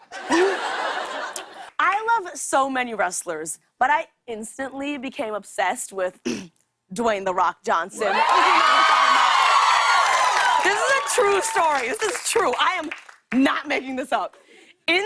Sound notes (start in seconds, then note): 0.0 laughter; 6.2 clears throat; 8.0 cheers and applause